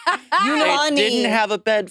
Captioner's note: participants laughing